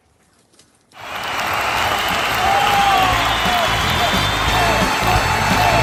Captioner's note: applauds